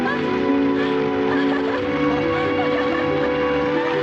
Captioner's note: laughter